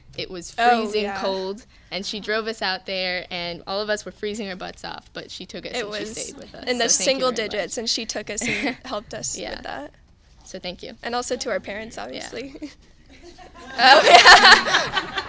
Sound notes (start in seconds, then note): 13.1 laughing